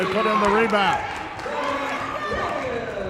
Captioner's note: cheering